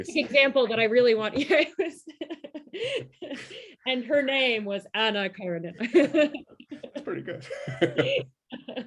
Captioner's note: laughter